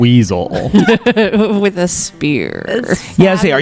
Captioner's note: laughs, adds